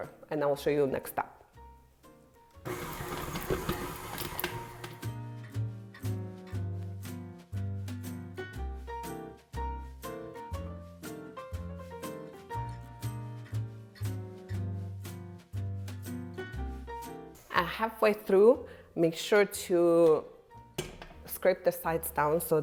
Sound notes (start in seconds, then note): 2.6 mixer growling; 5.1 lively music